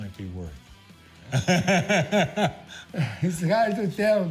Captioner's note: laughs